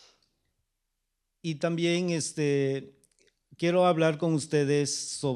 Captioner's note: speaking spanish